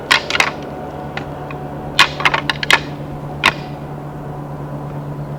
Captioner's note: antlers rattling